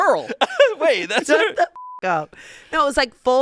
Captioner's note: beep